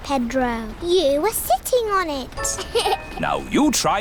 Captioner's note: laughs